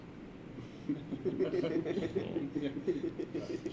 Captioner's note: laughter